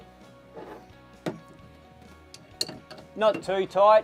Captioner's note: soft metallic clanking